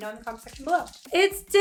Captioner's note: pills rattling